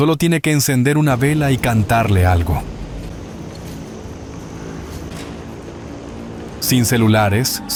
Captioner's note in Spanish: Corte abrupto, sonido de helicóptero